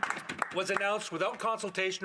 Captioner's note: some Applause